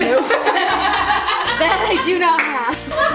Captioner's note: all laugh